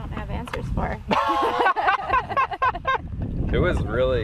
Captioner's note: laughter